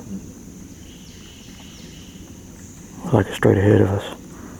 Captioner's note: birds calling loudly